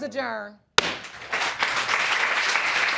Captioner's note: applause; gavel bangs